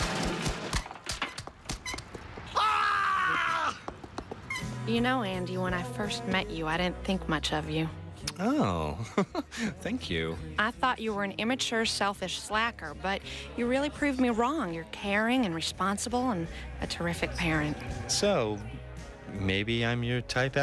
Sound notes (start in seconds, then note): 0.8 screaming